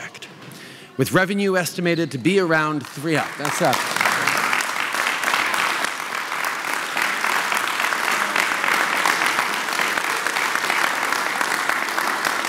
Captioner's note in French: Applaudissements